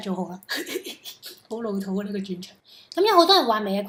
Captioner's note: laughter